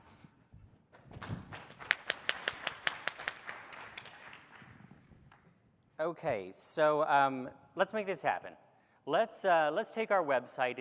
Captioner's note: applause